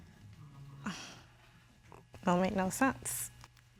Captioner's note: exhales